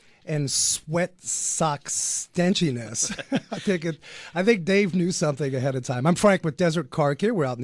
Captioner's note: both laugh